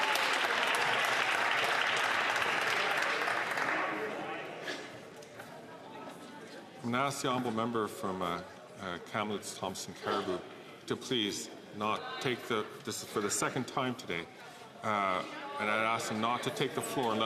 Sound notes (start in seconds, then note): 3.2 some Applause